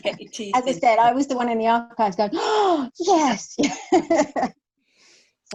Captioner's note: laughs